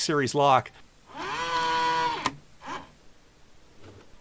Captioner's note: motor whirring